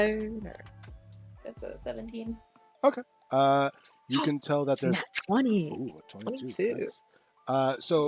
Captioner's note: gasps